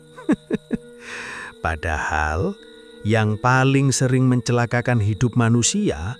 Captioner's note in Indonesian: tertawa